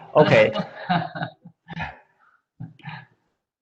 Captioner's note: laughs